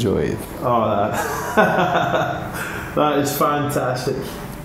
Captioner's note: laughter